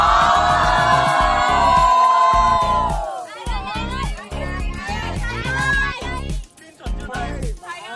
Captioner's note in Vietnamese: Vỗ tay